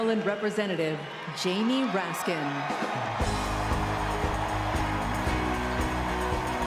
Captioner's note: applause